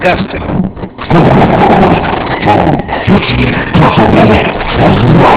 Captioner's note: grumbles